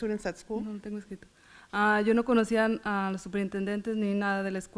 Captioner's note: foreign language